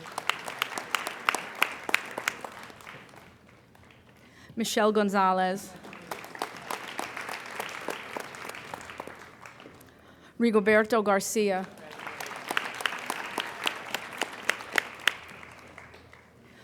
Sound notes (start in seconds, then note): 0.0 applauding; 11.4 applauding